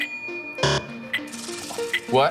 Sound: buzzer

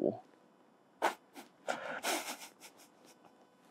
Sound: snickers

